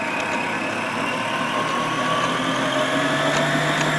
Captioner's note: mixer whirs